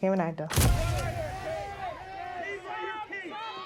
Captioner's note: camera click; crowd shout